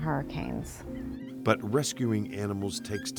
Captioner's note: dogs whining